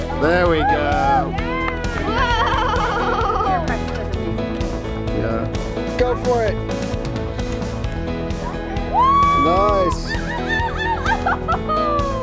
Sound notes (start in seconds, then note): 8.9 woman screams